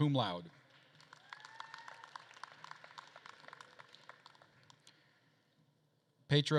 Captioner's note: attendees applauding and cheering